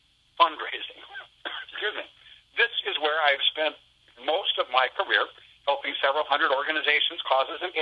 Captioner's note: coughs